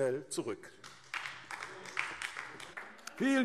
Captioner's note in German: Beifall DIE LINKE